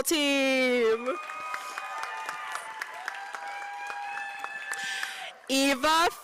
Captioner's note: applause